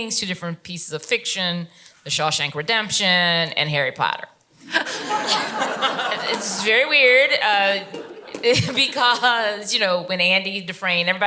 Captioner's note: laughter